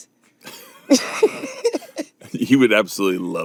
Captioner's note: laughing